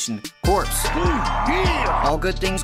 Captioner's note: wild cheering